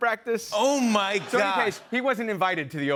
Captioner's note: laughter